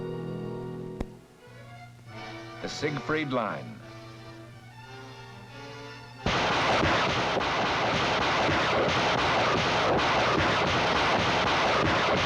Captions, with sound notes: The Siegfried Line. (artillery firing)